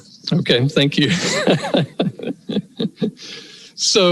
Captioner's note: laugher